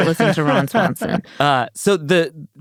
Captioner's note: laughs